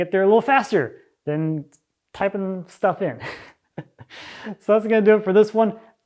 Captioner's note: chuckles